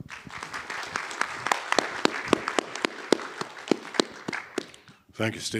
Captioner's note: audience applauding